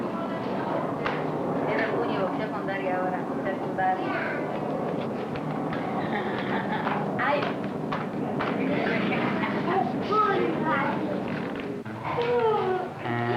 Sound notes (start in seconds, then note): 2.1 Spanish speaking